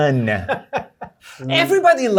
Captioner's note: laughter